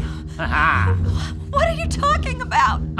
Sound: evil laugh

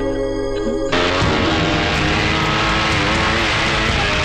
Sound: engine revving

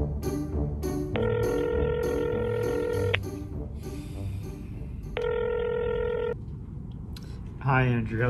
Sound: phone ringing

